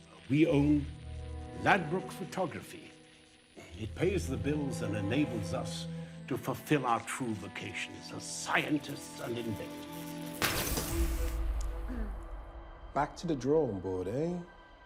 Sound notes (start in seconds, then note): 10.3 bulb shatters